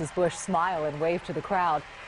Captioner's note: applause